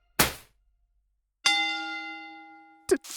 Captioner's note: pop; bell ding